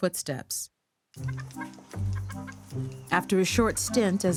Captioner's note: chicken clucking